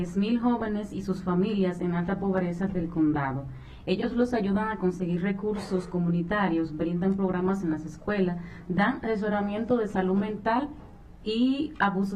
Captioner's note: speaking spanish